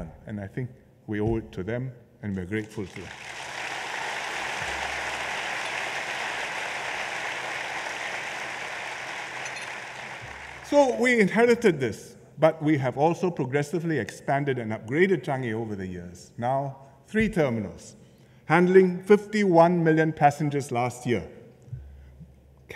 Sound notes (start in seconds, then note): 2.7 applause